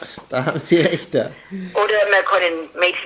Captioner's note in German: lacht; lacht